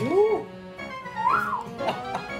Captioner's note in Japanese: 口笛